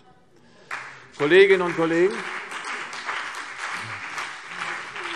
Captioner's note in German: Beifall CDU und BÜNDNIS 90/DIE GRÜNEN